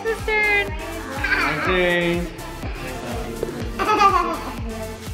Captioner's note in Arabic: يضحك